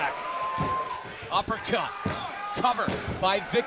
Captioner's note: crowd cheering